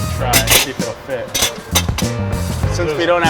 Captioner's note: metallic clanking